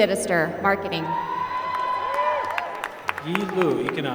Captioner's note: applause